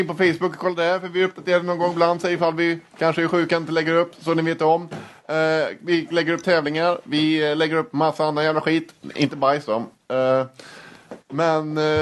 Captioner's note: swedish noises